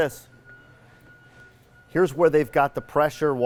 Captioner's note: beeping